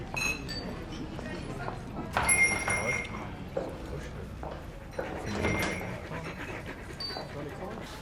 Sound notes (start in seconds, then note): 2.2 doorbell jingles; 5.3 door closes